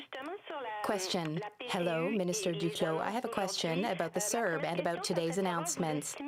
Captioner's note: speaking French